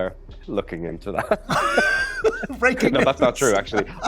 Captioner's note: both laugh